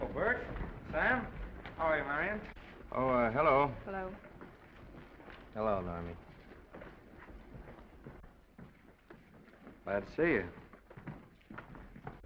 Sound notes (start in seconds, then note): 6.6 footsteps receding